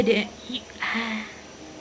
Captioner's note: Sigh Of Exasperation,No Atencion